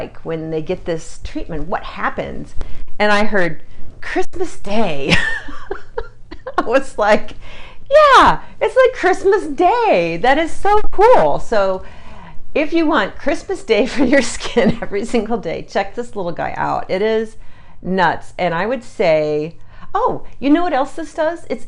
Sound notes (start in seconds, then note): 5.1 laughs